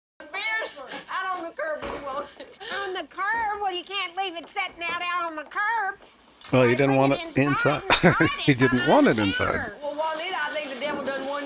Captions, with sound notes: [Chuckling] Well, you didn't want it inside… you didn't want it inside.